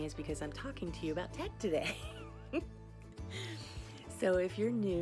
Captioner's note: laughs